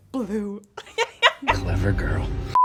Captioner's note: laughing